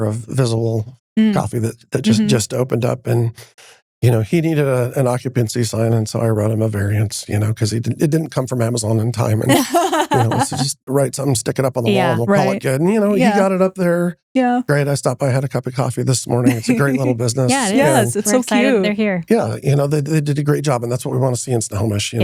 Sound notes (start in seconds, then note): 9.2 laughing